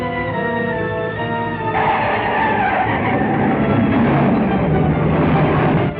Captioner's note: tires screeching